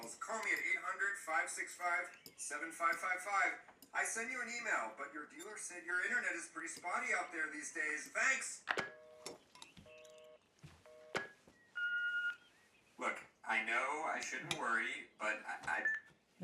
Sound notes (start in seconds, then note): 9.3 dial tone; 11.8 machine beeping